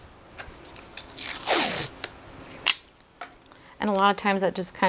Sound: tape ripping

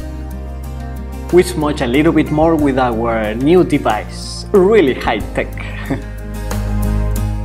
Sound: laugh

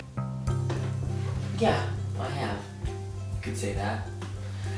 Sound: mumbles

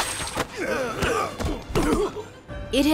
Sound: grunting

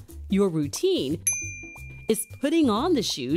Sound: bell dings

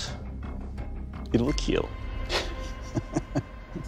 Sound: laughs

